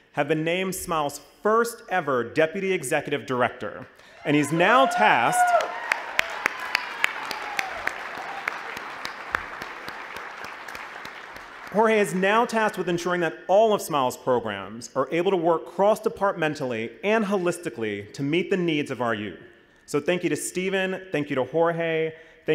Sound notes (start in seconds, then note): 6.9 applause and cheers